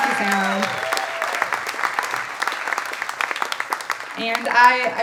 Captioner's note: audience applauding and cheering